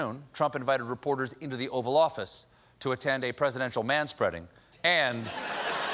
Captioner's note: laughter